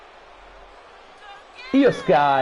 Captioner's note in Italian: Applauso